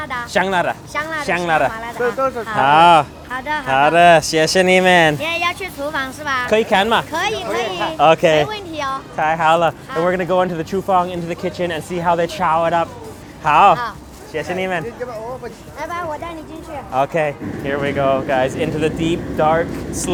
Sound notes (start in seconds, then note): 10.9 foreign language; 14.4 foreign language